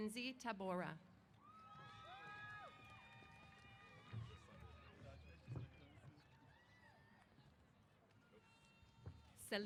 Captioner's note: applause & Cheers